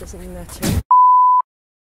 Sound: gunshot

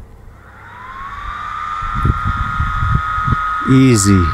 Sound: cooling fan turning on

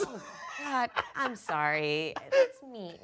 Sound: laughing

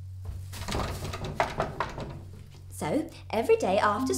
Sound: knocking on door

